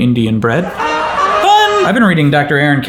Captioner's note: audience laughing